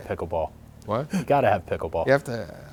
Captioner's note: laughing